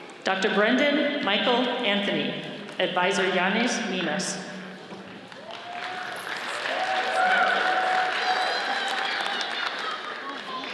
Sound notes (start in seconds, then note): 5.3 audience cheers and applauds